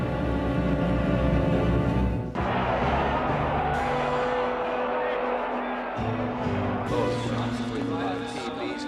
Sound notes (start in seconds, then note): 2.3 kerumunan menderu